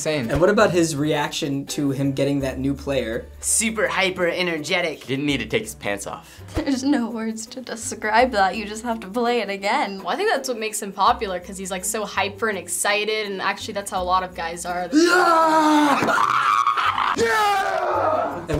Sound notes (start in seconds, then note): 15.0 screeching